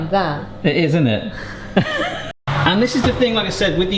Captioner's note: laughs